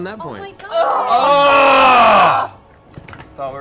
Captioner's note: yells in despair